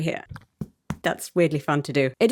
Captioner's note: knuckles rapping